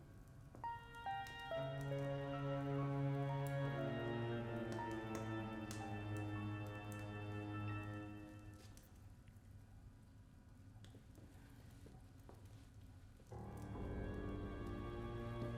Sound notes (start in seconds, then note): 0.4 fireplace flames crackling